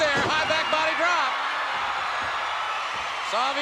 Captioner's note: spectators cheering